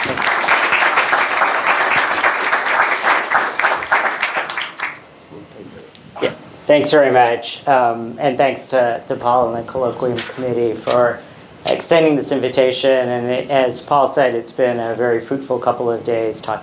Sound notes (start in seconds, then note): 5.3 murmuring faintly